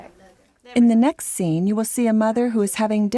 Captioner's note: voiceover